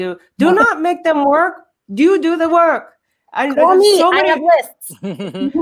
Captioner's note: murmurs